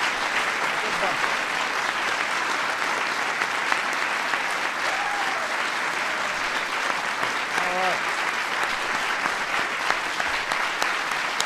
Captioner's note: applause